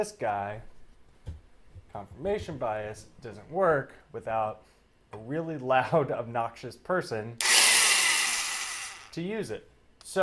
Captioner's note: drill Whirr